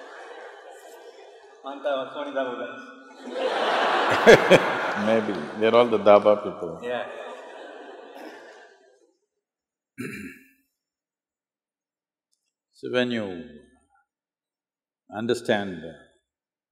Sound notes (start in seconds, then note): 0.0 laughter; 3.9 Sadhguru laughs